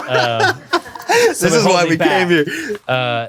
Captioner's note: laughs